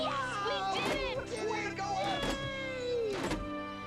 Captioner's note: all cheering